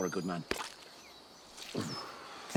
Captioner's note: handshake squelches